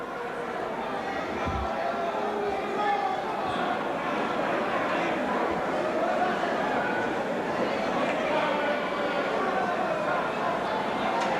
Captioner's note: crowd chatter